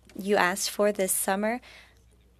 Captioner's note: speaking French